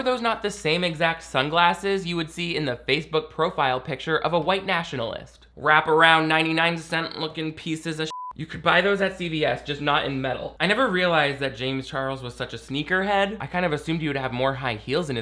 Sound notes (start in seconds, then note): 8.1 beeps